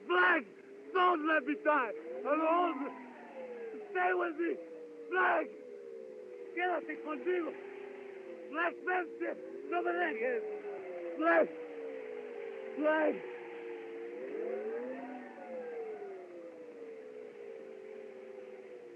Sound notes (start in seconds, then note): 6.0 shouting In Spanish